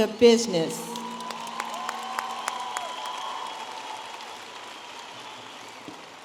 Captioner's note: audience applauding and cheering